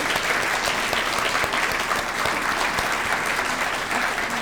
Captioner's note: audience clapping